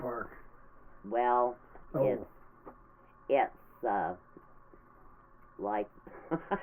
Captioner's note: laughing